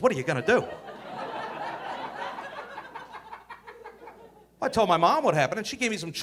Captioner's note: audience laughing